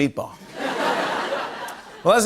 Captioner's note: laughter